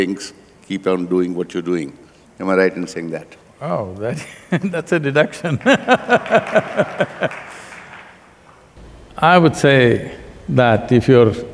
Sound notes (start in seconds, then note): 5.6 applause; 6.7 laughster